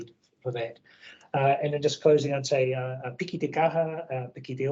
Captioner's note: speaks in foreign language